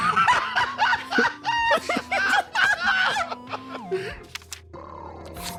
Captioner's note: laugh